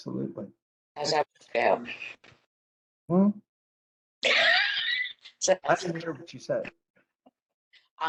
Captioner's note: laughter